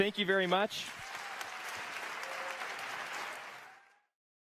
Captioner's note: audience applause